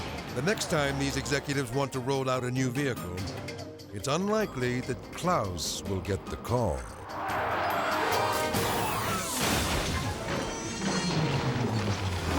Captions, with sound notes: The next time these executives want to roll out a new vehicle, it's unlikely that Klaus will get the call. (tire screeching) (car crashes)